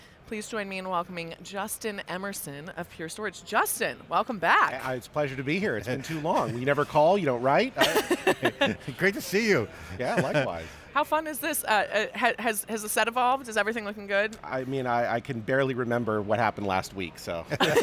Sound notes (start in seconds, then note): 7.8 laughs; 17.5 everyone laughs